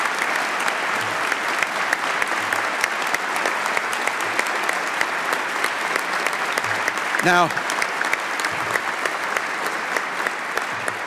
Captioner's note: applause